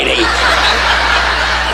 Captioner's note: audience laughing